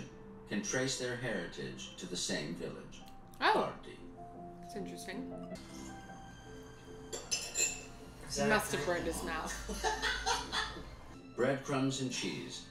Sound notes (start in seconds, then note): 9.2 laughing